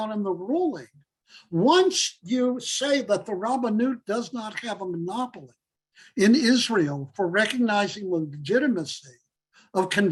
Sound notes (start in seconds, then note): 3.6 Hebrew